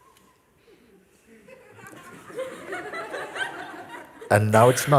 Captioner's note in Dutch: gelach